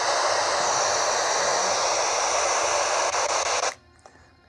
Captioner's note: radio noise